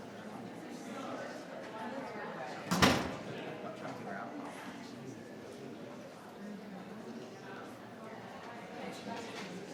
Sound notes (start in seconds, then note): 2.8 door thudding; 4.8 people chattering